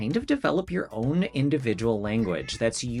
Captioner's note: cat meowing